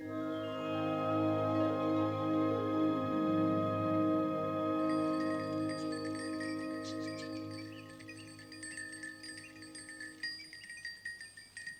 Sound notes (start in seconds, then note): 0.0 grand orchestral music; 3.6 bells ringing